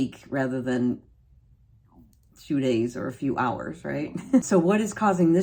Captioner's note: laughing